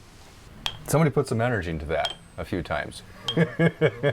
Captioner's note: laughs